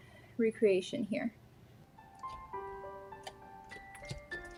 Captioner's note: dramatic huffs